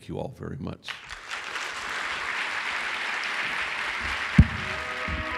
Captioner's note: applause